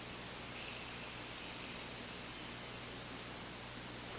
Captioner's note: both inhaling